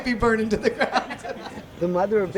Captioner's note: laughing